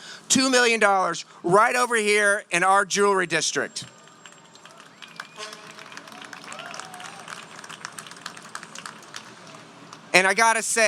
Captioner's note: applause